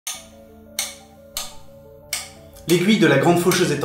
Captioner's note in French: tic tac tic tac